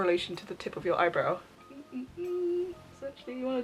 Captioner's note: humming